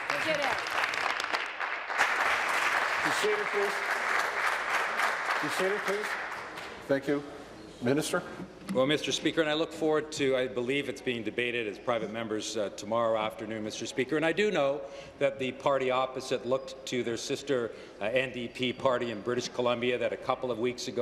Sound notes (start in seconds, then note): 3.6 applause